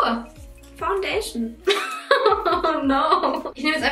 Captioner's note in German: lacht